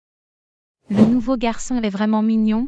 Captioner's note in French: FX - Whoosh - 03